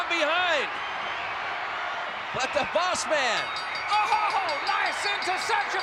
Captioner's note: ring bell dinging